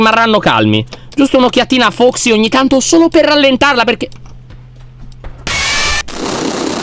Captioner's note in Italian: rumore di passi; Freddy urla